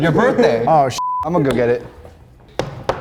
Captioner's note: beeping